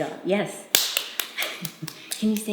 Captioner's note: claps